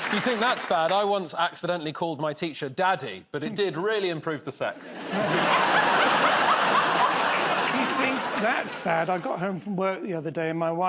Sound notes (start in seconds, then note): 6.3 laughter